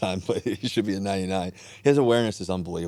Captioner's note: chuckles